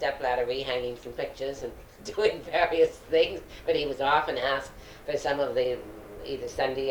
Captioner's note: laughs